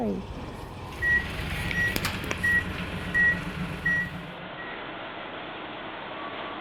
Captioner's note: loud reversing beeper; idling diesel engine